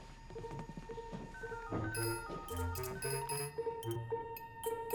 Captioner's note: phone dialing; gentle tinkling music